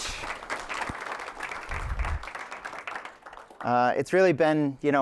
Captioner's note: applause